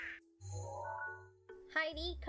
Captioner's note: digital sound effect